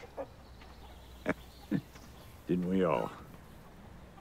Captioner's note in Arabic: يضحك